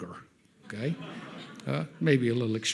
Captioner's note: audience laughs